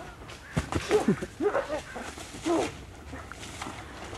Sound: muffled painful moaning

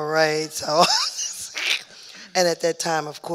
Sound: laughing

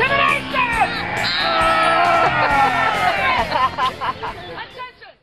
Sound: laughing

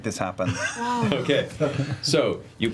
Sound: laughs

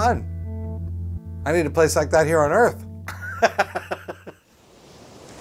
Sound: laughs

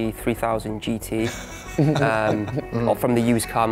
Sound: laughing

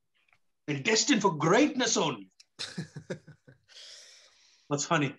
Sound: hari laughs

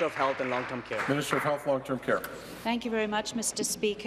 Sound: applause

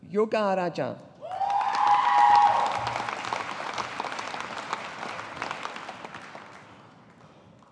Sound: audience applauding

